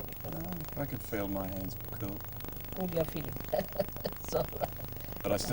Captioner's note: laughs